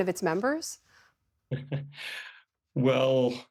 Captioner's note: laughter